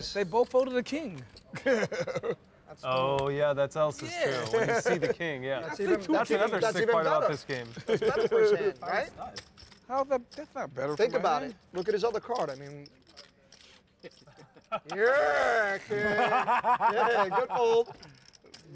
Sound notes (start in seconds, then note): 14.1 laughing